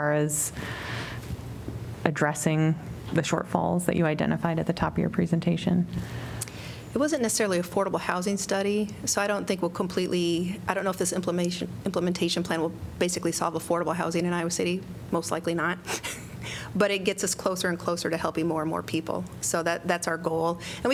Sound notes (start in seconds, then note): 15.8 laughter